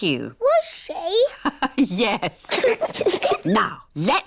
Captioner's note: laughs; both giggle